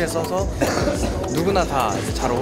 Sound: cough

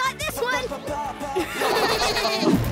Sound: laughing

